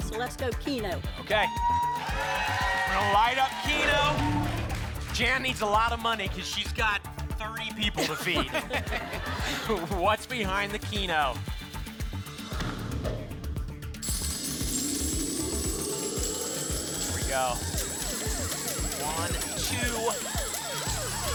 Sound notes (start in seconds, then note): 1.2 applause and cheering; 7.8 laughter; 13.0 whoosh; 14.0 coins jingling; 17.8 coins jingling and sirens